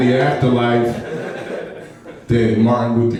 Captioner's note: laughing